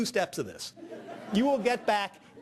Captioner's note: audience laughing